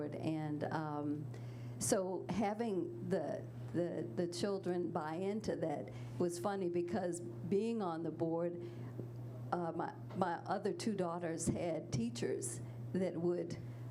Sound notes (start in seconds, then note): none